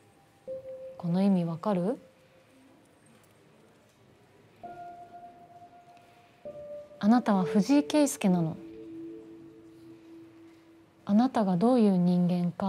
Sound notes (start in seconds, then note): none